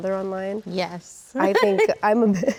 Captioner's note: laughs